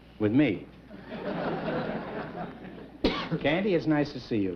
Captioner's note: chuckling